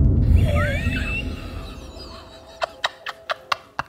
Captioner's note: chuckling